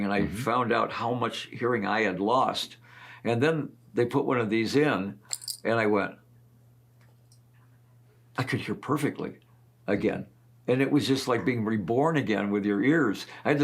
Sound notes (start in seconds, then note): none